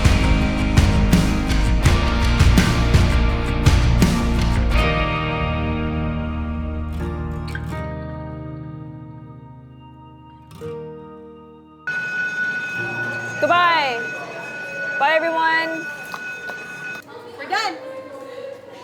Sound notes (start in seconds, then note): 11.8 school bell rings